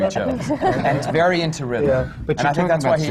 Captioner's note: laughter